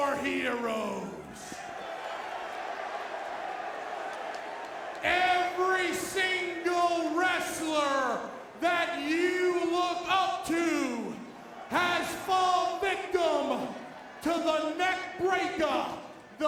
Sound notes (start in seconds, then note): 1.5 crowd boos